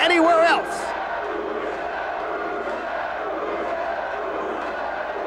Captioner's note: spectators chanting "Sabu!"